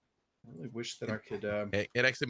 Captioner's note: mumbles